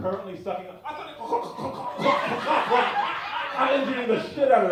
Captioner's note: choking sounds